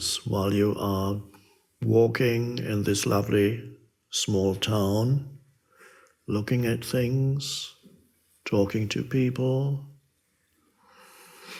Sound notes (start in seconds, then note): none